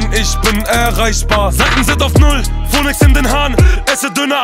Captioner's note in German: brr